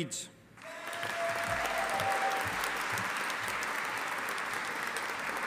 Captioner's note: audience applauding